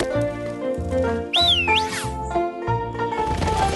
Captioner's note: whistles